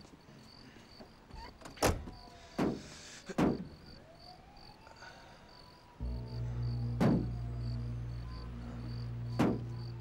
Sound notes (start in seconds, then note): 4.8 <i> muffled banging</i>